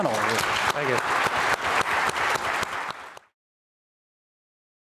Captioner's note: applause